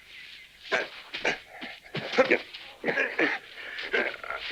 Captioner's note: assailants grunting